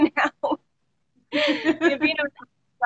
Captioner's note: both laughing